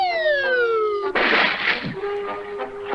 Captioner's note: splash!